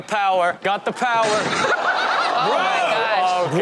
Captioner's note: crowd laughs